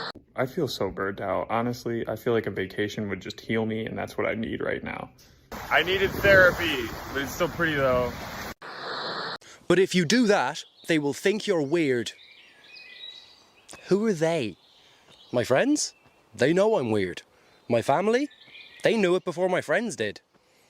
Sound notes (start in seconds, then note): 5.5 🌊🏖️ocean beach waves🏖️🌊